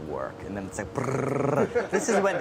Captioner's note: trills tongue; man laughs